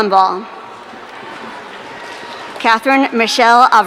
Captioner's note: audience cheering